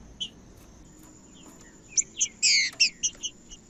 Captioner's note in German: trinca ferro cantando